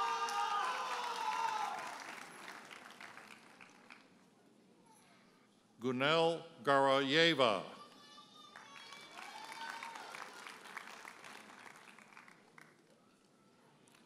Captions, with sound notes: (audience hollers and applauds) Gunel Garayeva. (audience applauds)